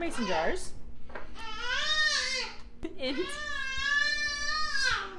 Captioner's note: baby screaming